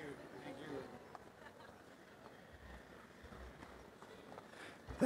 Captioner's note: background chatter